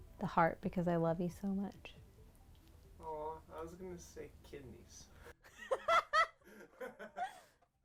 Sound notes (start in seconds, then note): 5.6 laughing